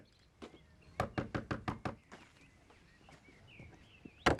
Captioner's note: Rob knocking